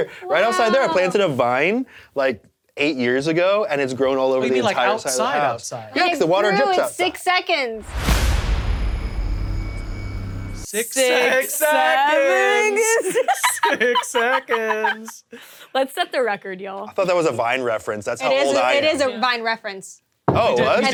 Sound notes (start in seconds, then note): 7.8 tense music; 12.8 both laughing